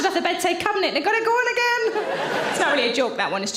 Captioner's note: audience laughing